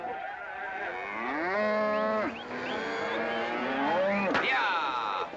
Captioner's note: whistling & mooing; loud mooing